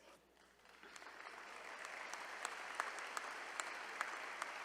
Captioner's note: all applauding